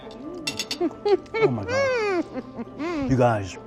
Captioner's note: laughs